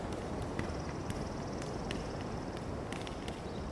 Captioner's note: fire crackling